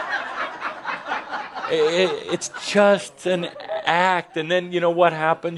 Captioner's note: laughter